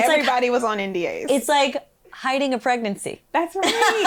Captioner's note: laughs